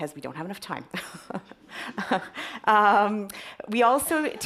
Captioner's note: chuckles